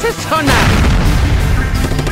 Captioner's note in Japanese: ボーン